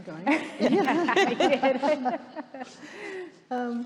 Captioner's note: all laughing